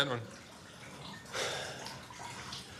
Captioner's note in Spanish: Ricardo suspira